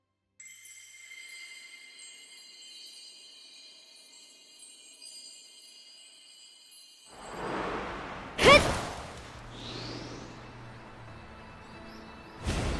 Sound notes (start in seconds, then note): 8.4 grunt